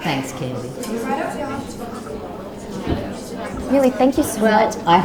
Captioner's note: people chattering